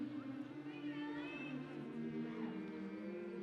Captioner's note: humming